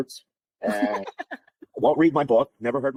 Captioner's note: laughter